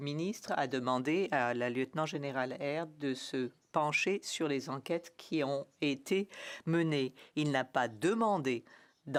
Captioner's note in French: voix de l'interprète